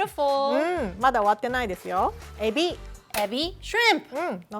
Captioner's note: speaking Japanese; speaking Japanese